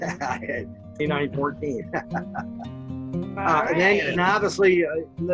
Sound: laughing

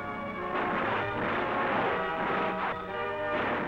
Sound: guns firing

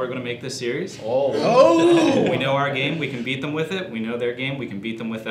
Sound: howling

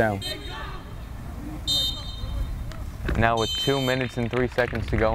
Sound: whistle blows

